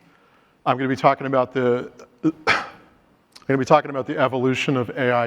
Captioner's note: coughs